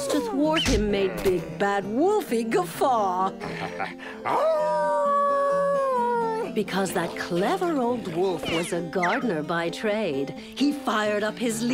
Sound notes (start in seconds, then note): 4.2 wolf howls